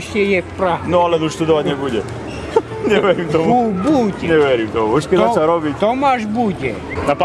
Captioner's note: conversation in Slovak